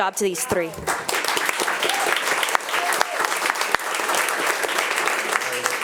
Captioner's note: attendees applauding